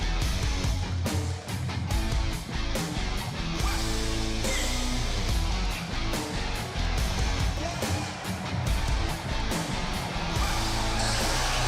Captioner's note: crowd cheering